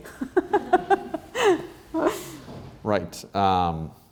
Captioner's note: laughs